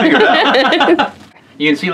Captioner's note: laughing